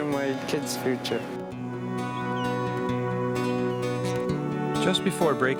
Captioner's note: gull chirping